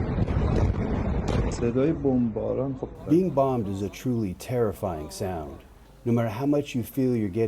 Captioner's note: through translator